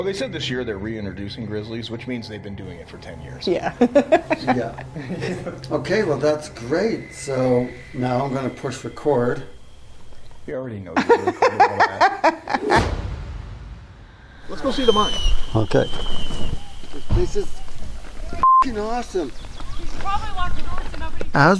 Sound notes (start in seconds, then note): 3.5 laughing; 12.0 laughing; 12.4 dramatic music; 18.4 beep